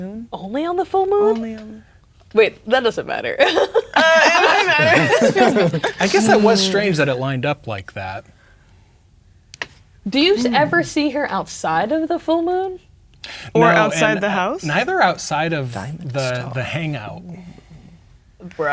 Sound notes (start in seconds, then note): 3.4 laughing; 3.4 players laughing